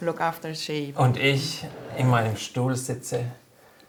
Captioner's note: speaks German